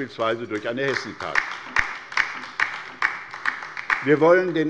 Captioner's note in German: Beifall bei der LINKEN